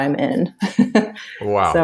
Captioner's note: laughs